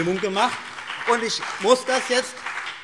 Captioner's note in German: Beifall BÜNDNIS 90/DIE GRÜNEN